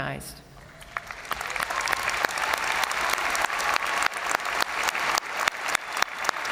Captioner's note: crowd applauding; crowd cheering